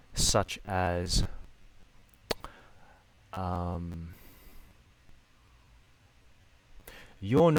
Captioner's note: silence